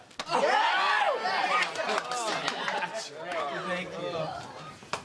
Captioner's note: cheering